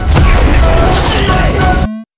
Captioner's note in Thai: ตูม